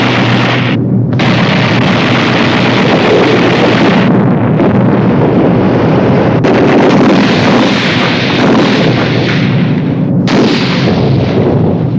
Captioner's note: sound of grapeshot